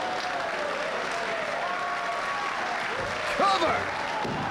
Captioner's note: audience applauding